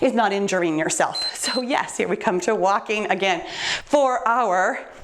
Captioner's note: timer beeps